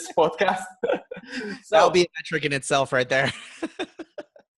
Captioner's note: laughs; laughs